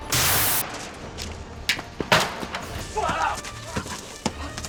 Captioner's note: exploding